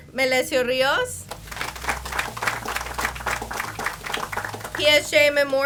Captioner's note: audience applauds